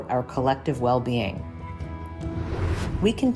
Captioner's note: gentle upbeat music; graphic whooshes